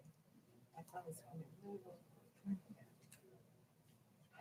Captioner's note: people chattering